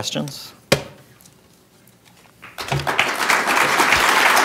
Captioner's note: audience clapping